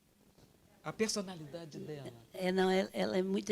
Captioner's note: translator speaking Portuguese; speaking Portuguese